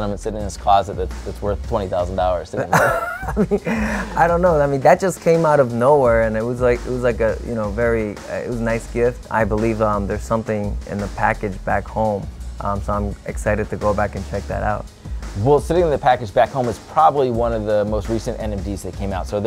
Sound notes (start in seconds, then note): 2.6 laughing